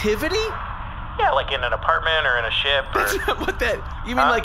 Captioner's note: laughs